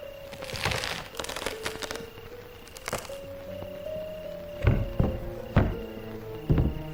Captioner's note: wood crunching; ominous tempo music